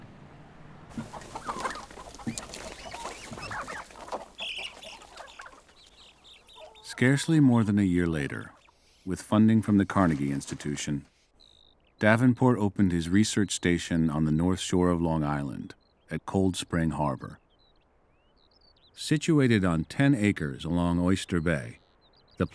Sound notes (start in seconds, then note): 0.8 chickens clucking